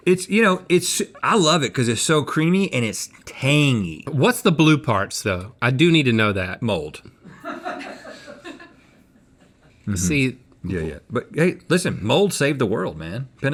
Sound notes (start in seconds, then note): 7.8 crew laughing